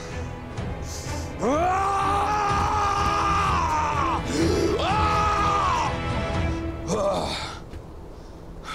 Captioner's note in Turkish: Bağırır